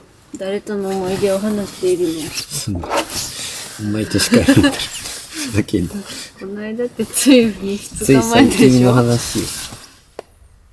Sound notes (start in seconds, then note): 3.8 laughs